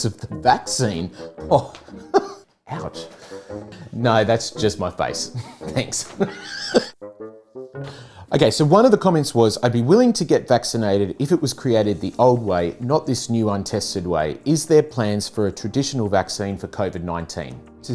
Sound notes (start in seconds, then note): 1.5 chuckling; 5.2 chuckling; 7.3 playful music